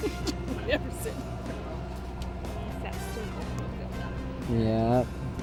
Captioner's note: laughs; mumbles